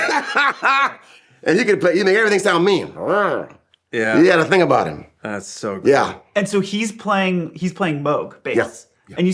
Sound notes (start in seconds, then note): 0.0 laughing; 3.7 growling